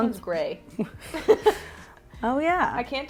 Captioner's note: both laugh